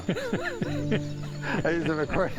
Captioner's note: chuckles